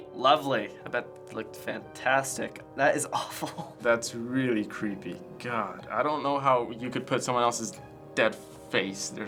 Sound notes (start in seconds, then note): 3.1 chuckles